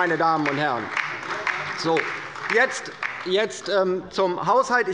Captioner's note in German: Beifall bei der LINKEN und der SPD